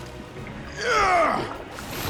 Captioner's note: grunting